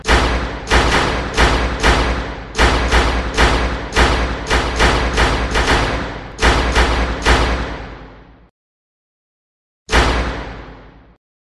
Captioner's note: dynamic sounds punctuate each action